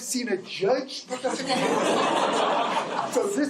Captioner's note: laughter